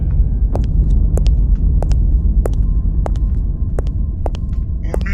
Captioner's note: footsteps thudding